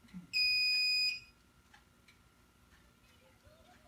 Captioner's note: beeping